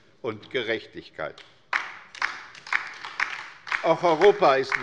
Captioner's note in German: Beifall bei der LINKEN